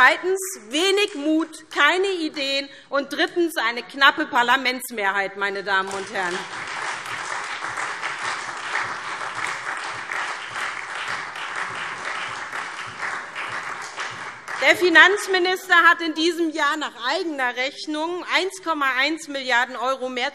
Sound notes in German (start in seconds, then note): 0.0 Beifall Freie Demokraten; 5.9 Beifall SPD, Freie Demokraten und DIE LINKE - Zurufe CDU